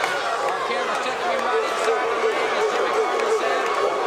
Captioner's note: audience barks